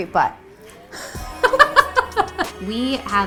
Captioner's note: laughs